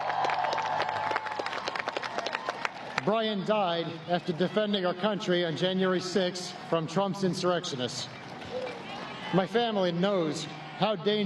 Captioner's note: applause